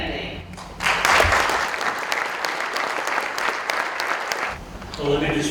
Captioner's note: applause